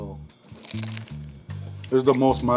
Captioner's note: bread crunching